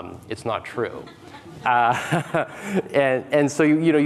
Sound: audience laughing

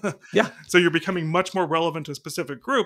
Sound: laughing

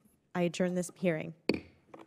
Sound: gavel pounds

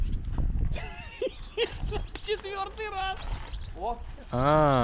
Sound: man laughing

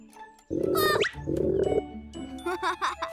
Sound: doorbell croaking; gasps; Hogi chuckles

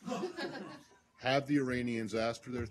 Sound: laughter

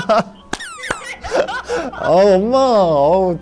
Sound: clapping cause he is embarrassed

